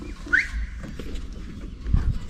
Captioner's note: whistle